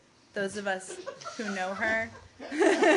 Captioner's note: laughter